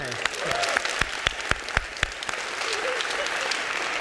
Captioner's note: audience clapping